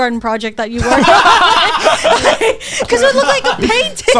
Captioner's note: all laughing